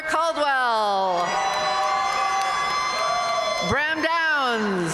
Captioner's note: audience cheering and applauding